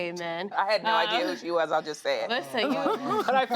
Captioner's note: laughter